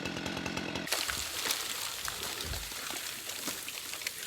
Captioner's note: snow crunching